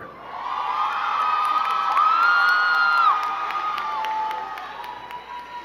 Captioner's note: crowd cheering and clapping